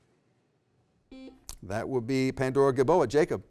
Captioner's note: beep